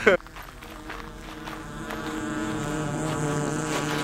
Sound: bees buzzing

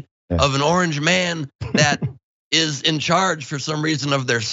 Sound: laugh

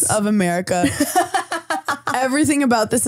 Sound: laughing

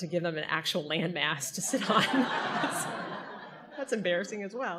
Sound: audience laughter

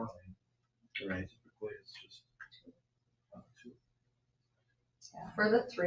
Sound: speak distantly

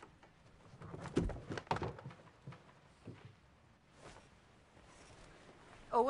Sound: something thumping around

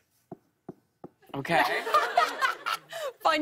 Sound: laughter

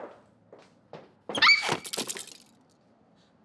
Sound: Jean slips, screams

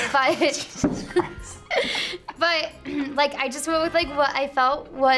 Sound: laughs

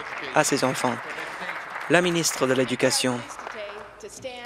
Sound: applause

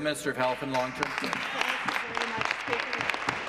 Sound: applause

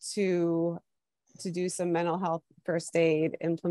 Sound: none

